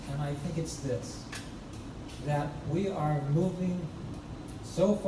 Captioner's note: none